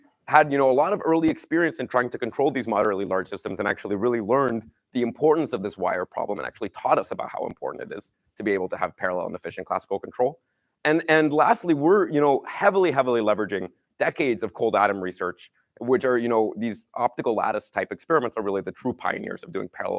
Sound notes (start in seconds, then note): none